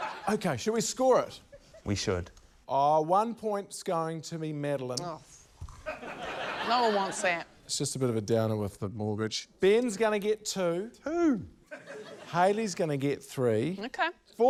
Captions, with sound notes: - OK. Shall we score it? - We should. - Oh, one point's going to be Madeleine. - (SCOFFS) Oh, for... (LAUGHTER) - No one wants that. - It's just a bit of a downer with the mortgage. Ben's gonna get two. - Two! - Hayley's gonna get three. - OK.